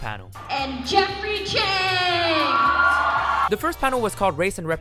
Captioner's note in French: Acclamation de la foule